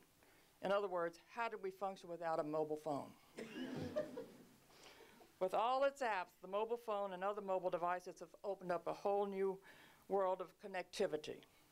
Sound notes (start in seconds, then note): 3.4 laughter